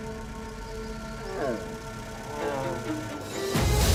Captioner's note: bear grunts; suspenseful music